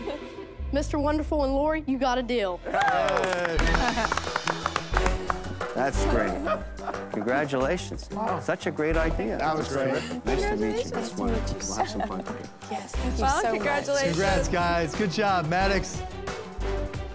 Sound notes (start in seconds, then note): 2.8 chuckles; 6.2 laughs